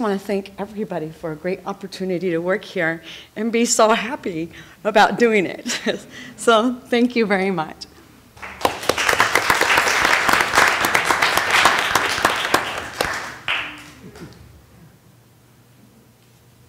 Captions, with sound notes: many, many of our colleagues and with open arms and have been received well. And I just want to thank everybody for a great opportunity to work here and be so happy about doing it! So thank you very much (Applause)